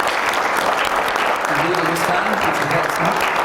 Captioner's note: applause